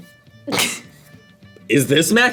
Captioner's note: React laughs